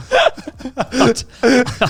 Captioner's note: laughs quietly